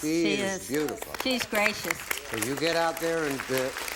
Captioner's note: applause